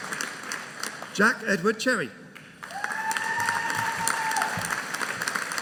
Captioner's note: audience cheering